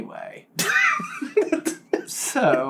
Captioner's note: laughter